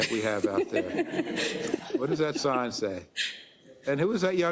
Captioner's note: laugh